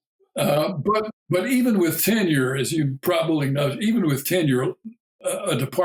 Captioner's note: chuckle